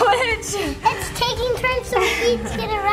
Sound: chuckles

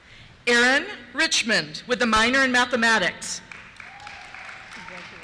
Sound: cheers

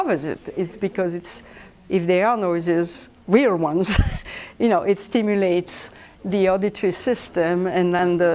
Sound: laughs

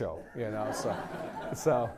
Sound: laughter

